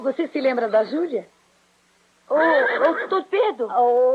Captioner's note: horse neighing